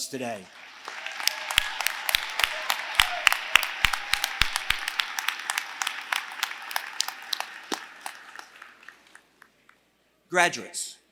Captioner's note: applause